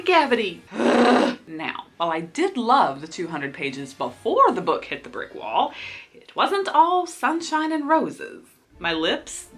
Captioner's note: sighs